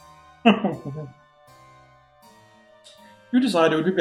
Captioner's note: laughs whimpering